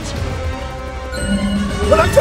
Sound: chimes

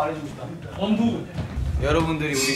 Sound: A wave of clueless chatter

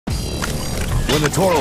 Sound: machine whirling

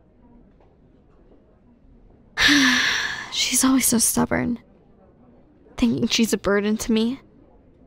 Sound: sigh

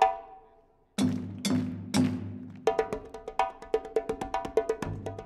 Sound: crowd claps to rhythm

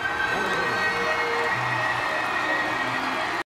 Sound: audience cheering

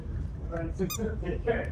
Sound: squeak

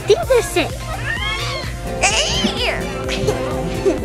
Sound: squealing

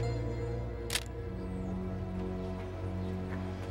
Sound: shutter clicks

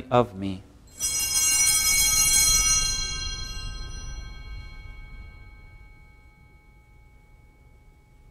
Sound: bells ringing

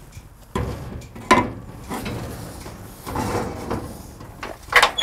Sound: metal clanking

